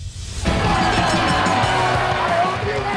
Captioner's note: crowd cheering; bell dinging